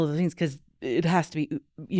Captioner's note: none